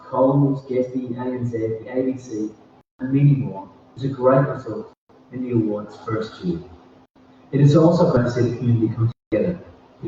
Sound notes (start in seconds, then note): none